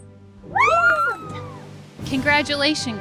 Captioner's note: all cheering